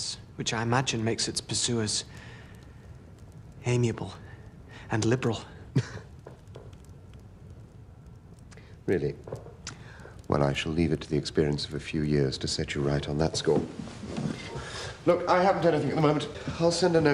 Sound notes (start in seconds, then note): 5.7 <i> laughs briefly</i>